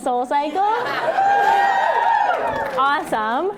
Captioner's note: cheering